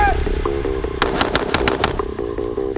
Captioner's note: gunshots popping; dramatic music